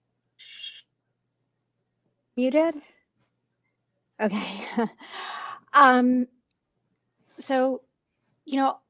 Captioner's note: muted